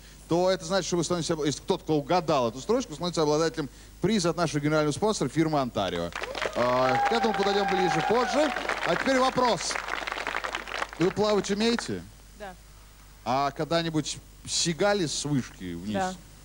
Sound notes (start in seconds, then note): 6.1 applause